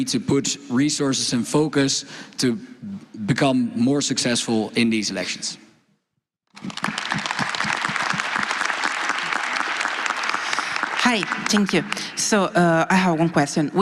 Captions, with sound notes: dashboard to keep track of how we are developing and where we need to put resources and focus to become more successful in these elections. (Applause) >> Hi, thank you. So I have one question. We had an issue on